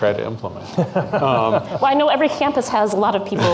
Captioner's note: laughing